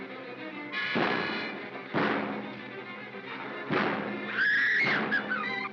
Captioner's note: bang; Bo Peep screams